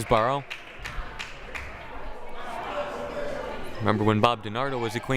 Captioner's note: crowd applauding